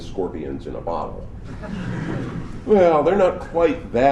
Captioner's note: laughter